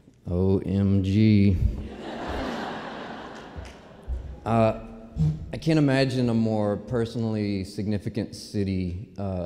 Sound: laughter

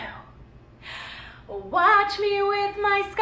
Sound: gasping

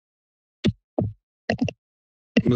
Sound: mic thumps

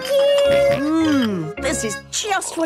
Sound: snorts

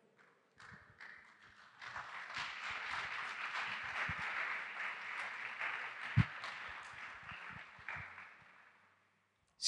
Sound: applause

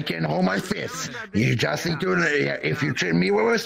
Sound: stammering

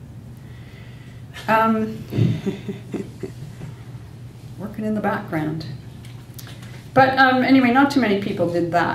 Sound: laughs

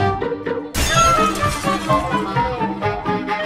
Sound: lively music; smash sound; lively music

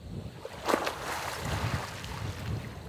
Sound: splash

